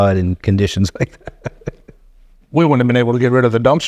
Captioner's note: laughing